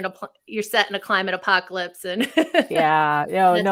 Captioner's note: laughs